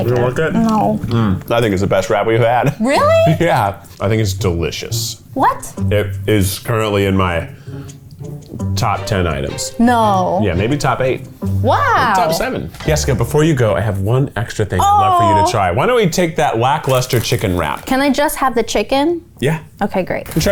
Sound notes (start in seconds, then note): 3.8 laughing